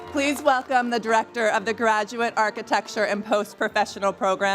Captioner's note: applause